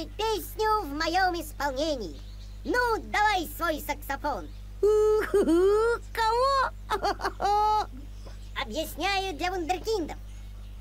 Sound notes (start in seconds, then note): 6.8 laughter